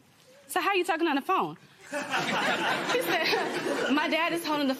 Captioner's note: laughter